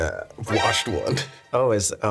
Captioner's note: bright abrupt tone